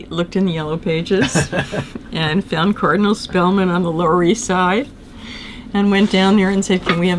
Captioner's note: laughter